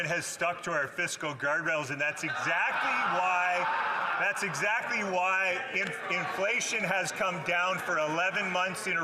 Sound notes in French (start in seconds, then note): 3.7 voix de l'interprète